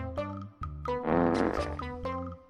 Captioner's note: fart